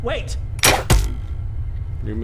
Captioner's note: twang; thunk